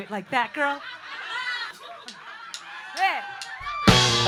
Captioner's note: laughing